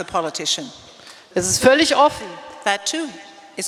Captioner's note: speaking in German